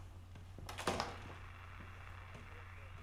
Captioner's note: door closes; TV static